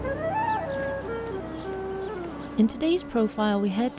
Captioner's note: birds chirping; gentle music